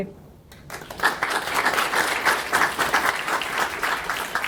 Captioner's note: delegates applauding